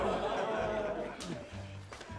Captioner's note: laughter